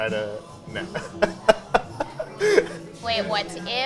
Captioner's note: laughing